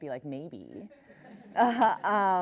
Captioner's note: laughing; laughs